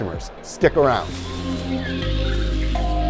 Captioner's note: tropical bird noises; tropical music